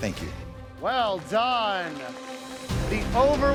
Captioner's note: applause